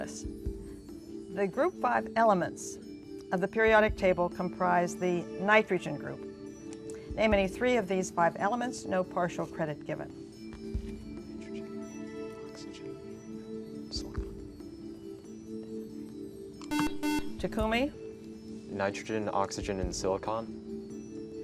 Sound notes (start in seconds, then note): 10.3 whispering; 16.6 buzzer